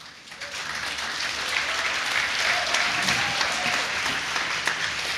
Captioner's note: applause